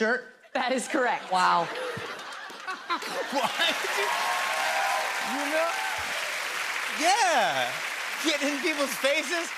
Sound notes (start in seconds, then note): 1.1 laughter; 5.0 cheers and applause